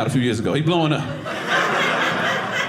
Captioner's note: audience laughing